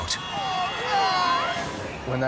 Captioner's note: crowd